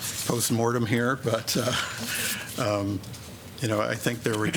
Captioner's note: laughter